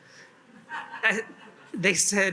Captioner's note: attendees laugh